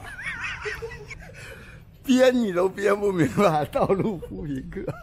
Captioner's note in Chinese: 笑聲